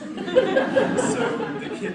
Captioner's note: audience laughs